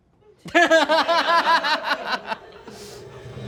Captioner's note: laughter